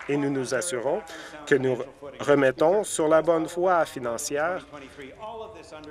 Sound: some Applause

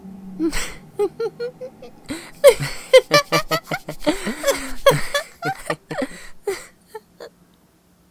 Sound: playful laughter

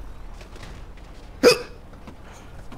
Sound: hiccups

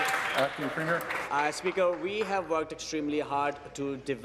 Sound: applause

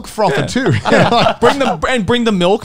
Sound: all laughing

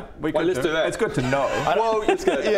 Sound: cryptic giggle

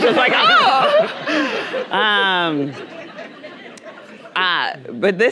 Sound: audience laughing

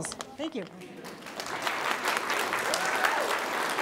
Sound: applause

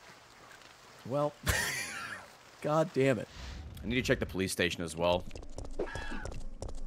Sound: laughs

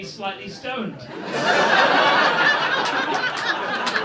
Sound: laughter

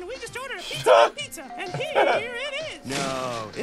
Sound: laughs

